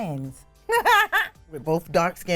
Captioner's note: laughing